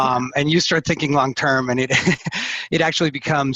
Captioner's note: laughs